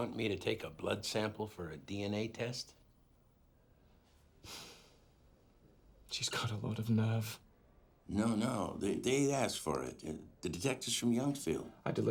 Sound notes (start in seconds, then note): 4.0 sighs